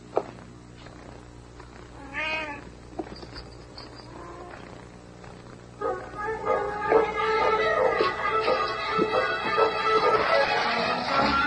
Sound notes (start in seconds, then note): 2.0 meow